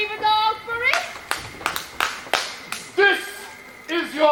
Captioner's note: hand claps